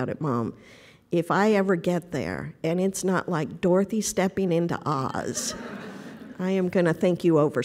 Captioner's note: laughter